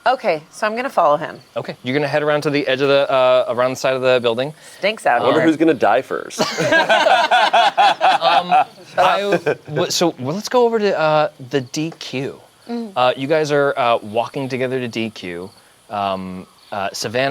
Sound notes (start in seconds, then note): 6.4 group laughs